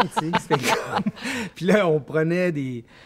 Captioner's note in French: rires